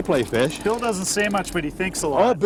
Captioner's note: laughing